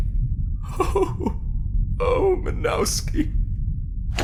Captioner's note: whimpers